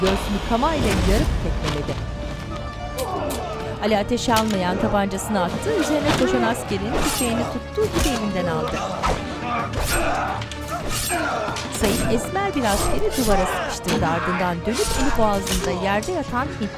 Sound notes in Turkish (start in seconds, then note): 2.6 Tetik çekme sesi; 5.5 Dövüş sesleri